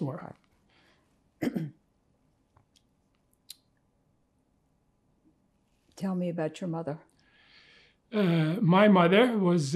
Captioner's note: pauses 6 seconds